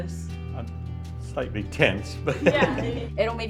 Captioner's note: chuckling